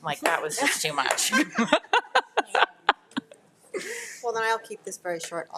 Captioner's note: attendees laughing; laughs